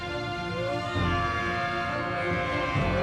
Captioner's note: Avia shouts angry